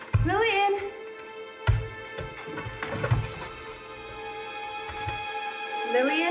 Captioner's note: thudding